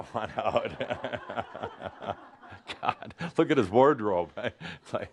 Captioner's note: more laughter